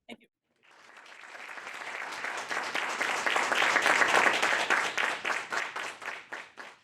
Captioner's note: audience applauds